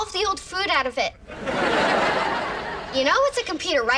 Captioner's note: audience laughs